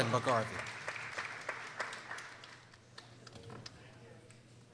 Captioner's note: people applauding